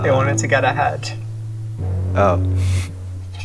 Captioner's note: laughs